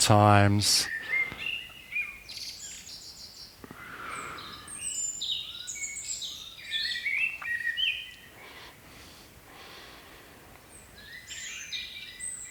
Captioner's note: breathing